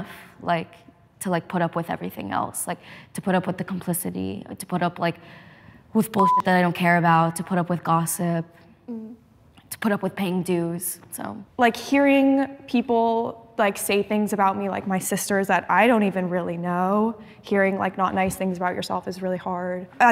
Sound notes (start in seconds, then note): 6.2 beep